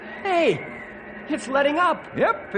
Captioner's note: none